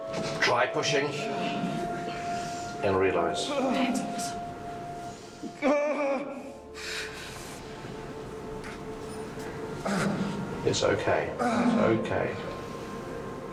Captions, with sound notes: Try pushing. -And realize. -That's awesome. [THORIN GRUNTING] It's okay. It's okay.